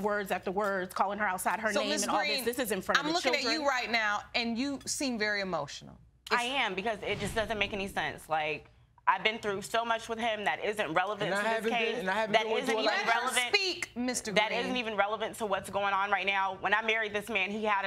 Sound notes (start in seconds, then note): none